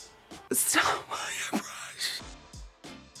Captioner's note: gasping